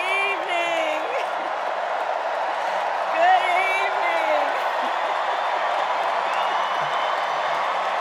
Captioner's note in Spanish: VíTORES